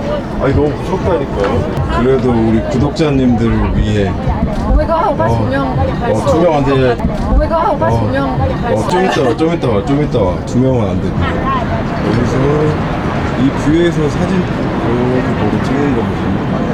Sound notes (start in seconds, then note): 7.0 laughing; 10.1 laughing